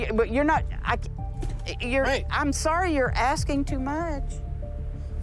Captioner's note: stutters